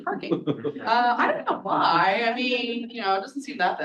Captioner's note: all chuckling